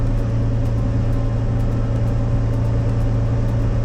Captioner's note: gentle music; engine rumbling